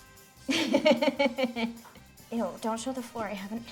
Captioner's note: laughs